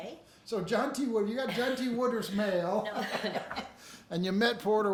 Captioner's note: chuckles